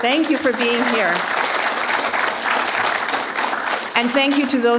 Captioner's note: applause